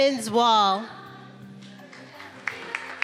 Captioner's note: attendees applauding